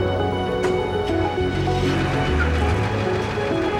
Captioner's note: engine starts